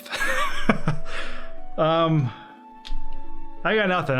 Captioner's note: laughs